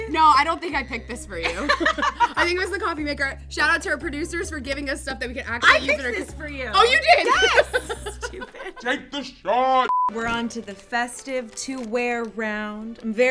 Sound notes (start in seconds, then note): 8.5 laughing; 9.9 short beep